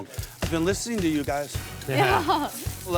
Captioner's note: laughs